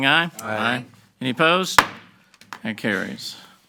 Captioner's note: gavel banging